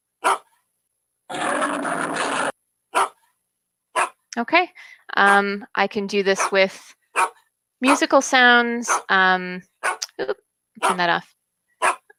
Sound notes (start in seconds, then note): 0.2 dog bark; 1.3 lion growl; 2.9 dog bark; 9.8 dog bark